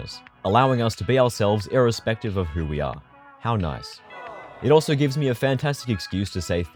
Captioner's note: aww